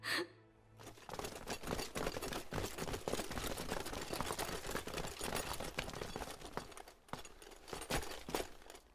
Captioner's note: footstepts